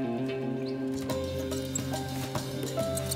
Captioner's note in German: Fiepen